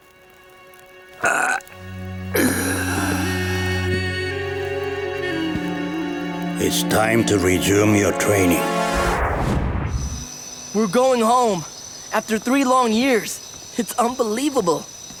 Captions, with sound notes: [grunting] It's time to resume your training. We're going home. After three long years, it's unbelievable.